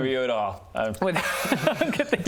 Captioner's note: disrespectful laughter